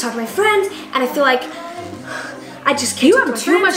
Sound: deep breath

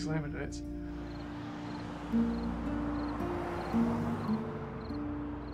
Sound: crickets chirping

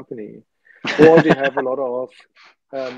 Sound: laughs

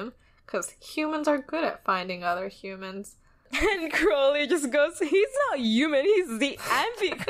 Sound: laughs

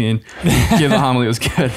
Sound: chuckles

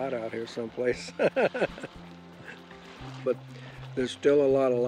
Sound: laughs

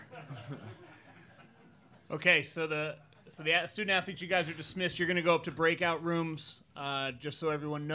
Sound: laughter

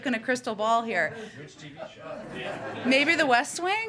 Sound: laughter

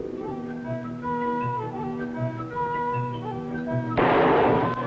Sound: gunshot

